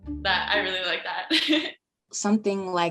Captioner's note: giggles